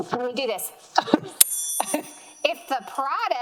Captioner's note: bell rings